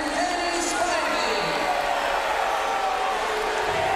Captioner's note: crowd chatter